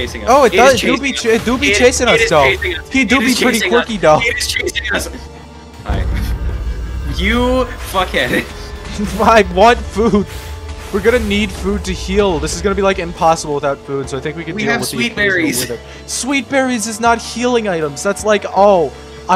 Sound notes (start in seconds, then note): 8.9 explosions; 13.7 explosions